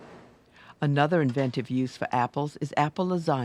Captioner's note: voiceover